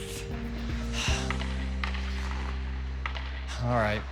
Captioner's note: sighs